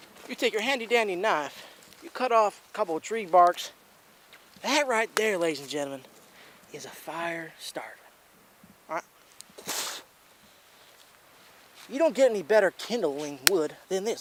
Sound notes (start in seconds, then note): 9.5 spits